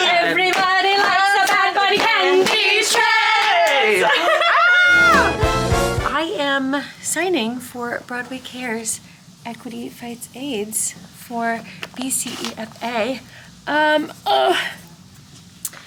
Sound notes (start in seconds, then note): 3.5 group laughing and yelling; 4.9 exciting music; 13.3 grunting